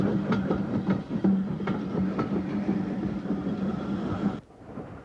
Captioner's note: train passing